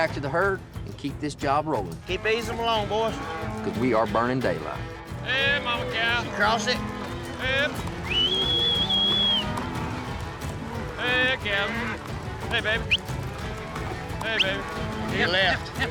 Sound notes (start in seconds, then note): 7.8 whistling; 12.7 whistling